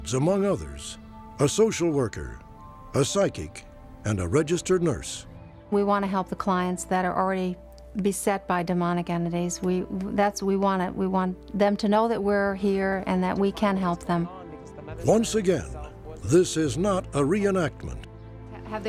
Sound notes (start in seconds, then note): none